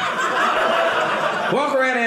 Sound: audience laughing

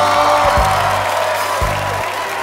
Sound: cheering

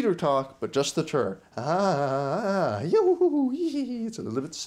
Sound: laughing

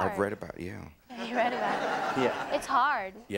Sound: audience laughing

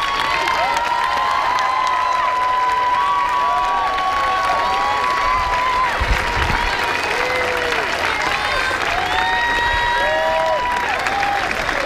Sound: applause

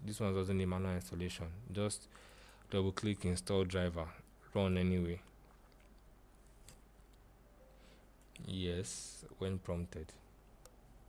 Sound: click

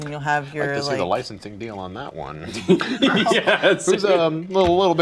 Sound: group laughing

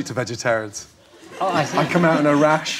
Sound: audience laughing

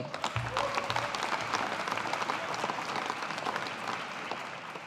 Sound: audience applauding

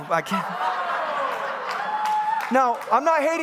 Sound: congregants laughing and cheering

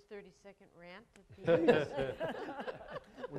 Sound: audience chuckling

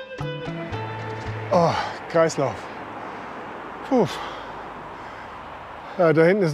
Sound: sigh

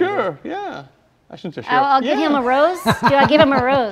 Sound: laughs

